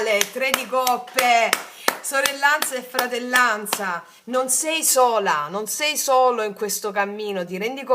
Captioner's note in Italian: applauso